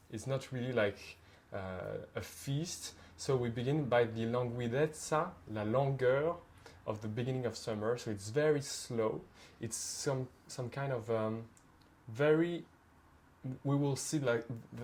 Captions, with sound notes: It's not really like a feast. So we begin by the (speaks Italian), (speaks French), of the beginning of summer, so it's very slow. It's some kind of very...